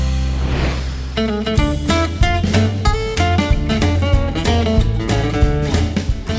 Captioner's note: air whooshes; upbeat music